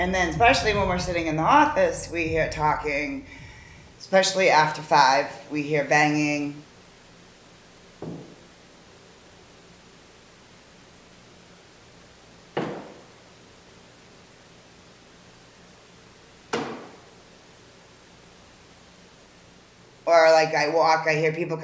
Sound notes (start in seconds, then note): 7.5 three "bang" sounds